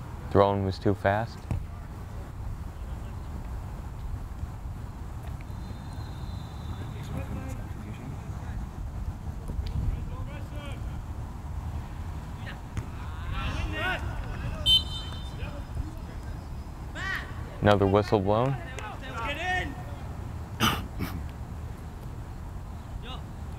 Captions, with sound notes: Throw in was too fast. (whistle blows) Another whistle blown. (players talking and yelling)